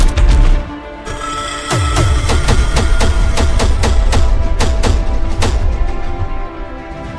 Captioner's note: steps thudding; beast shrieking; steps thudding